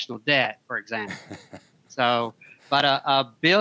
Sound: laughing

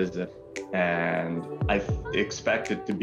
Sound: speaking french language

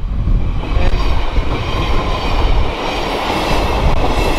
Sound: train rumbling

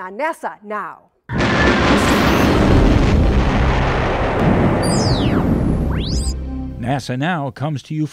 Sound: sound Effects

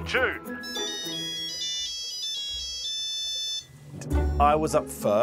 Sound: original tune ringtone plays

